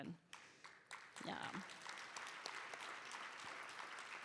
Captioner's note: applause